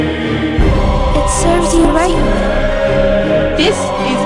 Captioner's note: echo